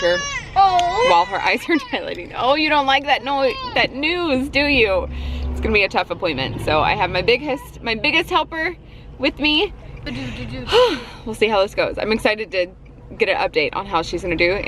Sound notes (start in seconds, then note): 10.1 sighs